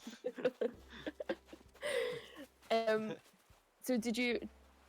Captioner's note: laughter